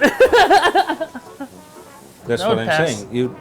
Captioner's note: laughing